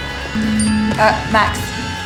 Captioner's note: phone buzzing